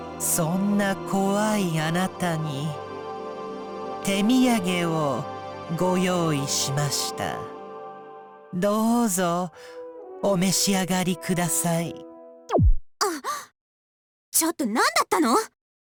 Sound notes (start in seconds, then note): 13.2 gasp